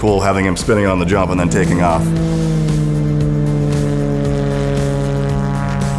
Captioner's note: plane engine roaring